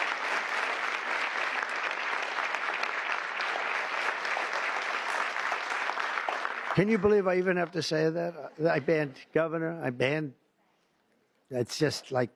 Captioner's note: applause